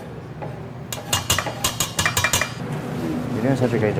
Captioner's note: tapping